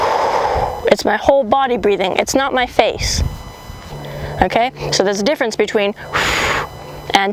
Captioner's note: blows air out